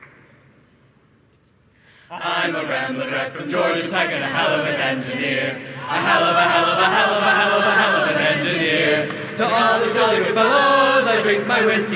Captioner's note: applause